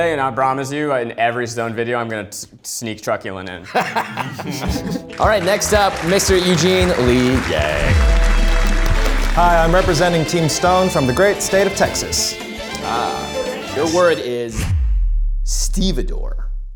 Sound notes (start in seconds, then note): 3.6 group laughs; 7.9 upbeat music